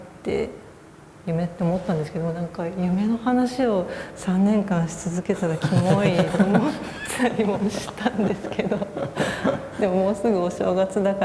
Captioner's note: laugh